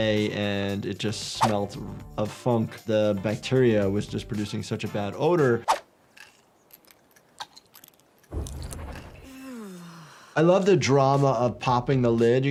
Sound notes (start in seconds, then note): 6.1 capsules rattling; 9.2 player character sighs in relief